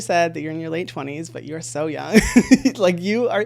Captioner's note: laughing